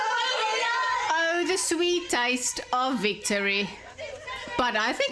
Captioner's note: narrating